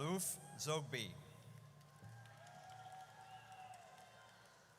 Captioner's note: audience cheers